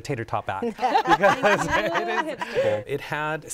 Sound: laughter

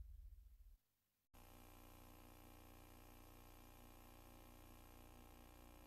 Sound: VHS static

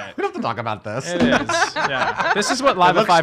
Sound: laughing

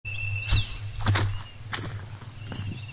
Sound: footsteps

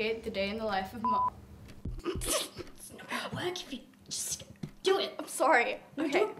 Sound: giggles

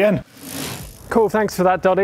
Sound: quick rattle

